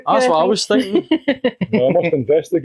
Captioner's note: unicorn Laughs